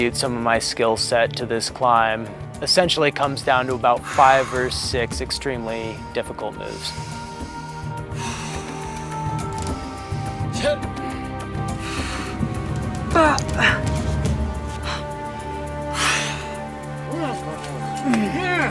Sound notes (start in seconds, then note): 7.9 grunting; 11.7 exasperated exhale; 15.1 lighthearted folk music